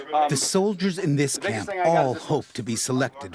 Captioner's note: voiceover